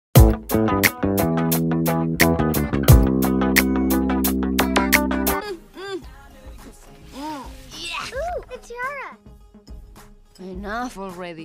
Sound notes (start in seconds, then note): 5.2 struggling noises